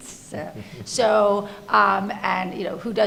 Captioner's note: laughing